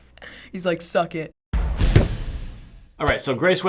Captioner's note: hammering nail